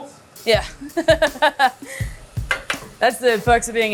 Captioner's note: laughs